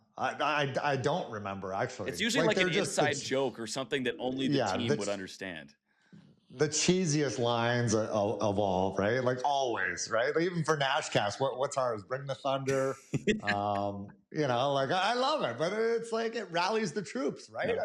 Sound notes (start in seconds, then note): 13.1 laughs